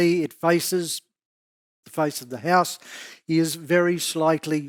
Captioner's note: exhales